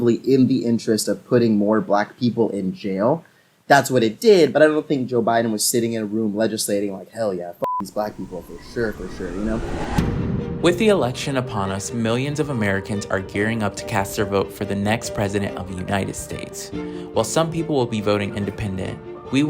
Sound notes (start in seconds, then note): 7.6 beep